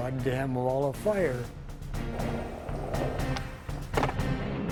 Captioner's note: rolling wheels; rumbling motors